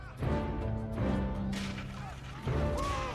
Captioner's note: yelling